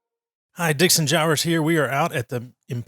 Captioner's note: voiceover